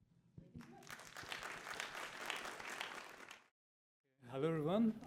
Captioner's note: applause